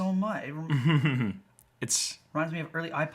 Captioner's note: chuckles